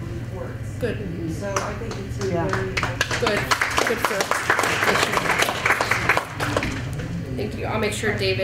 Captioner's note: applause